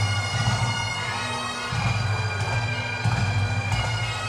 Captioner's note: audience cheering